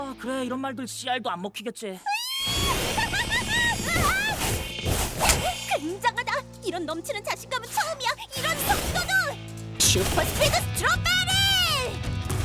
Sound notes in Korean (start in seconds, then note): 2.3 신나는 웃음소리